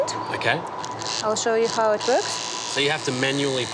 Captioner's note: wand whirrs